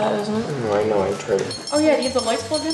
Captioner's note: beeping